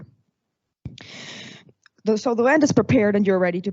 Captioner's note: exhales